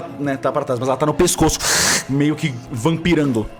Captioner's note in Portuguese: shluup